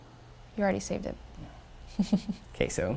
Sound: laugh

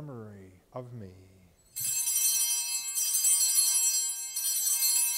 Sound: bells chiming

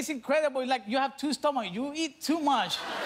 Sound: laughter

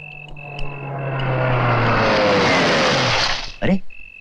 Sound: car Engine

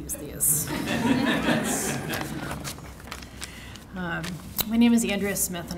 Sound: audience laughing

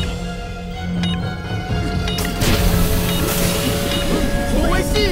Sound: clock ticking

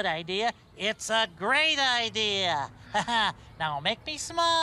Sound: laughs

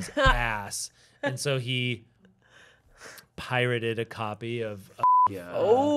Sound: beep

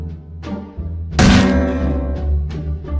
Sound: clang

